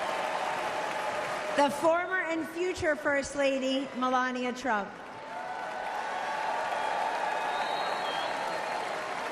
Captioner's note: applause